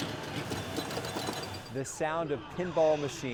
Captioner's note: machines chiming